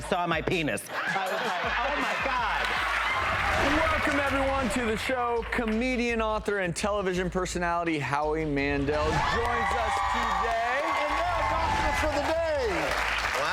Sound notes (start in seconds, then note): 0.9 audience laughing; 9.2 audience applauding